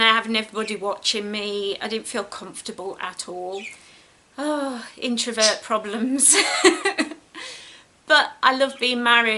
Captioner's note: giggles